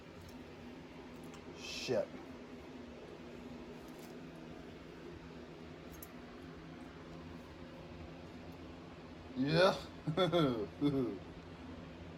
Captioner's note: chuckles